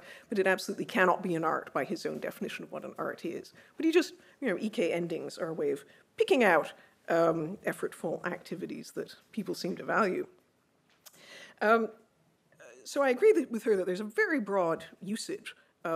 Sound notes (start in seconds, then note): none